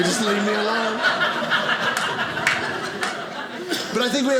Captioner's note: audience laughing